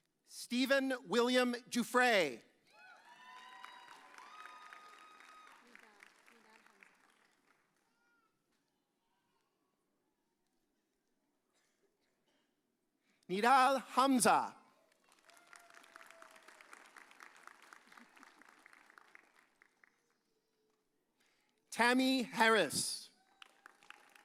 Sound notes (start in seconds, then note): 2.8 audience cheers; 15.1 audience cheers